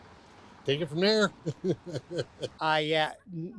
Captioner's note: chuckles